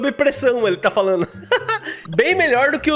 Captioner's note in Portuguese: risos